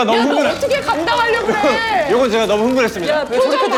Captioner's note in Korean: 부글부글